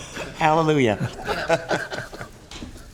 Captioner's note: laughter